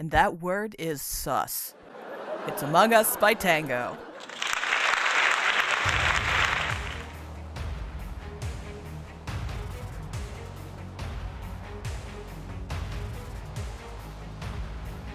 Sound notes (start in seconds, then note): 4.0 applause; 5.7 exciting music